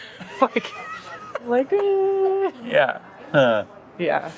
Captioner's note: laughing